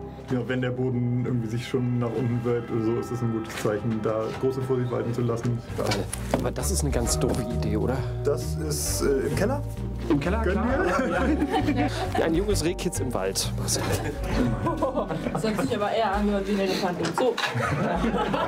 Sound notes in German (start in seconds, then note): 13.8 Gelächter